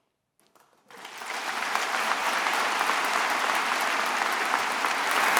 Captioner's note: attendees applauding